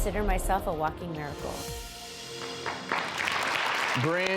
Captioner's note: audience clapping